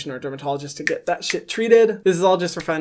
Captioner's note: snapping fingers